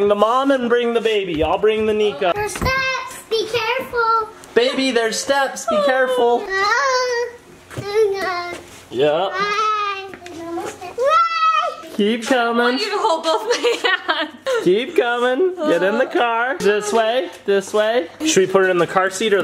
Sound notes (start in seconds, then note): 6.4 babbling; 12.9 laughing